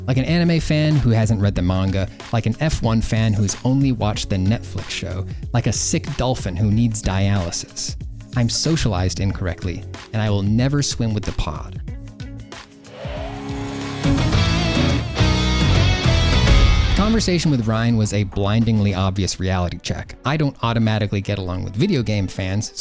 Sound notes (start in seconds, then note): 13.0 whooshing football; 13.0 cool guitar riff